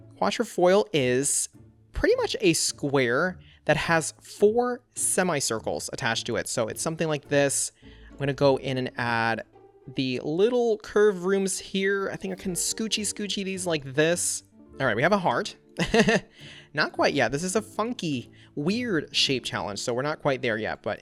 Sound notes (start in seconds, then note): 16.2 laughs